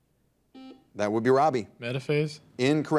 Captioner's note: buzzer dings